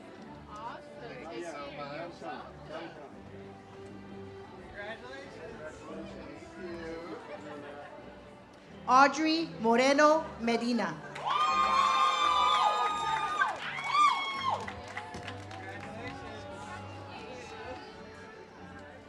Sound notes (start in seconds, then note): 11.2 audience cheers; 16.0 ceremonial music